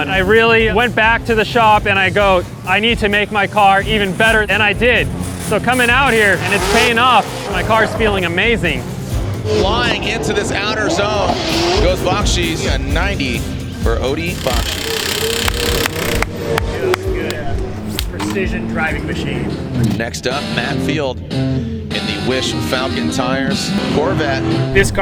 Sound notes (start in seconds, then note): 14.1 impact wrench rattling; 21.3 rock music